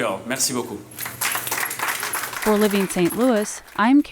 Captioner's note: crowd clapping